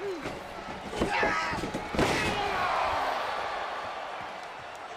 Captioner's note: screaming